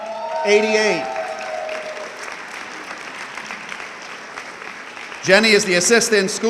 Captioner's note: audience clapping